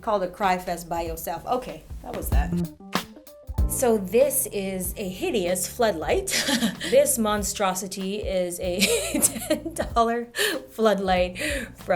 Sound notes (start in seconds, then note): 6.4 laughs; 9.1 laughs